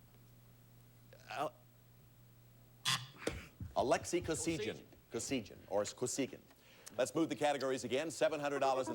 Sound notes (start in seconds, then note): 2.8 buzzer sounds